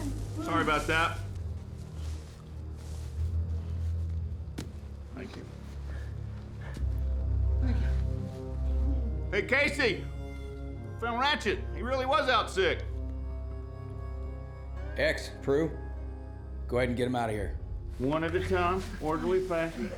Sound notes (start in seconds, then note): 4.2 guns thuds to ground